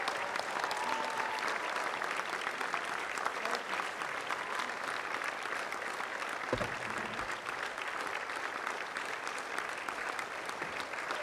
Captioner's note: applause